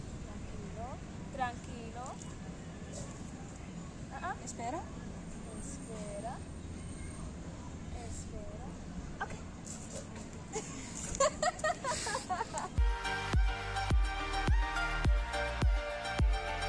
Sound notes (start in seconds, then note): 10.5 woman laughs; 12.8 bright synth music